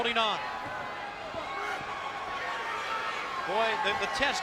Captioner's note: crowd yelling